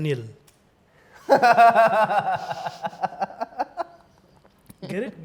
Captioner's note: laughs; chuckles